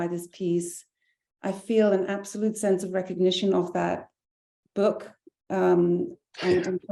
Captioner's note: chuckling